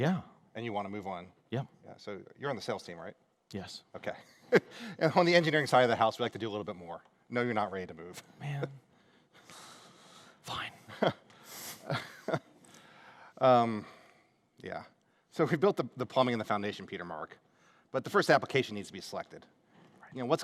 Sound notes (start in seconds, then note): 11.6 laughter